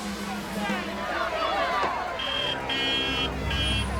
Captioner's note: horn honking